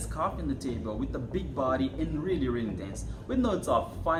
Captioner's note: in Spanish